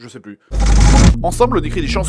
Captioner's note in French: bruitage transition de "Bref"